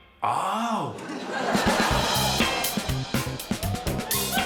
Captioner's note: laughter